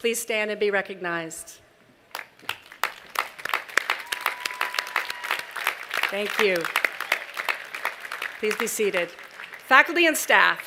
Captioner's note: applause